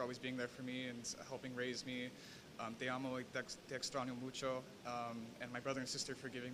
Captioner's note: speaking spanish